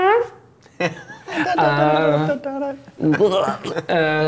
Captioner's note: goofy noises